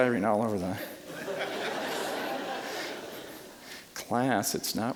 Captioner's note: audience laughing